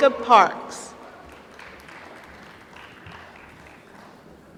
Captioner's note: applause